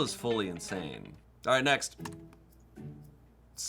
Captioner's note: key clacking; soft music